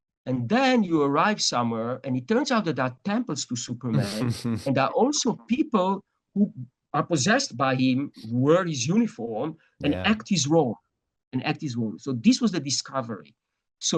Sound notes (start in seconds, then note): 3.9 laughs